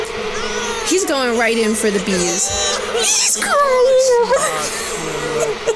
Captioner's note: wailing in despair